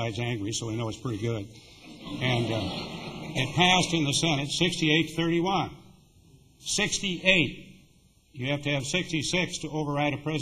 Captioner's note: laughter